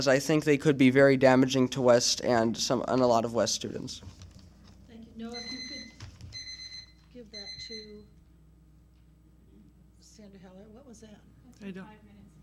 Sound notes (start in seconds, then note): 5.6 timer beeps